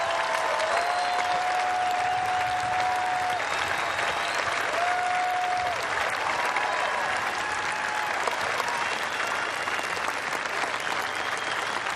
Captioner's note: cheers and applause